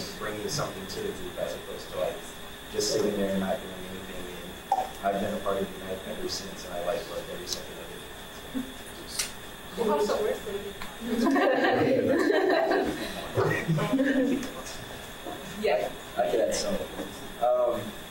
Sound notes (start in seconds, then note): 11.0 audience laughing